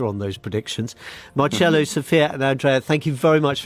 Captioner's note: laughs